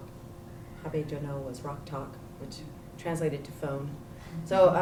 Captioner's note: non-english